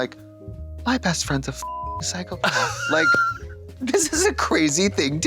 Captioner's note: beep